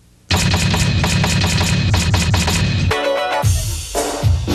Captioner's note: banging effect; upbeat theme music